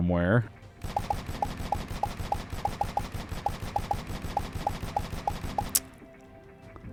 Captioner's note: gunshots